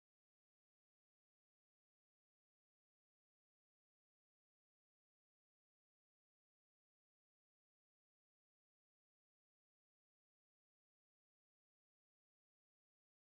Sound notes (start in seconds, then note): none